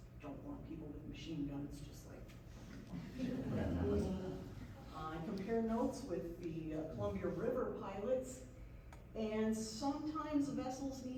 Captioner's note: laughs